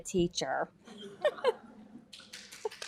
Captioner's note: laughter; applause